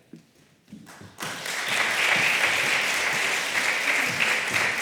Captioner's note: applause